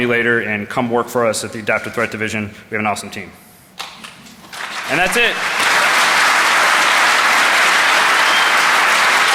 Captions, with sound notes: come work for us. You're an awesome team. And that's it. (Applause.) Any questions, hit